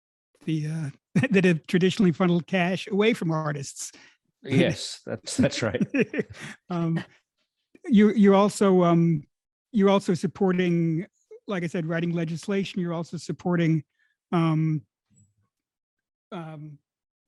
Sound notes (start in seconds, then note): 5.2 both laugh; 7.2 laughs